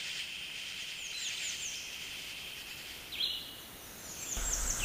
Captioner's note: sound of bird chirping and then traffic passing